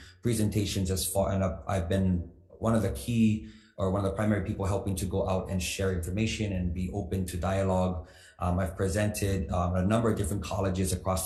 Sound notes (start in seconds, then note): none